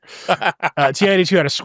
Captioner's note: laughing